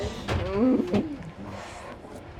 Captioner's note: laughs